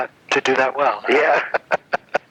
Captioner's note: laughs